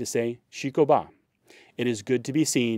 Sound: speaking in foreign language

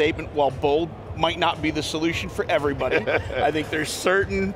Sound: laughs

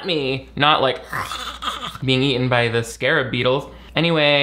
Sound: sputters

